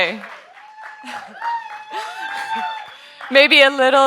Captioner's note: audience members applauding; audience members hooting